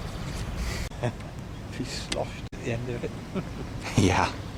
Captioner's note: laughing